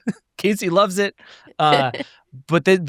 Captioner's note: chuckles